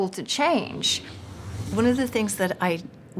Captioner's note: whooshing